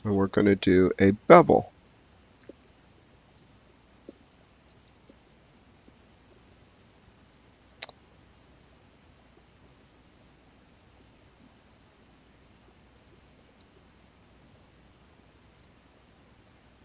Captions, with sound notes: and we're gonna do a bevel. (mouse clicking) (clicks tongue) (mouse clicking)